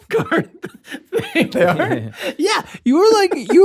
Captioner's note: laughter